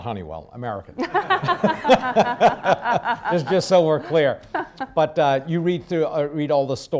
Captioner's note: laughs